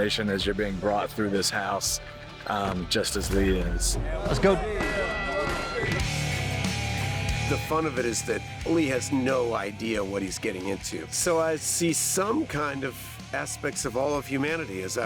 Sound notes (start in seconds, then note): 4.9 chatter